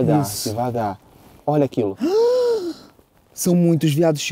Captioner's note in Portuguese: faz som de surpresa